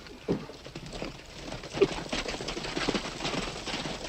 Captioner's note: horses trotting